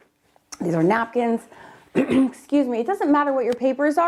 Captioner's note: clearing throat